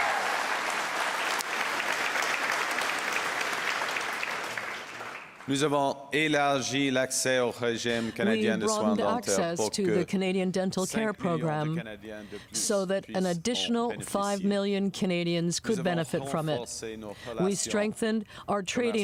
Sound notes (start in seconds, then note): 1.9 cheers and Applause; 9.0 speaking French